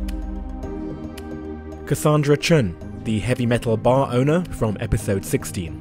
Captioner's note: voiceover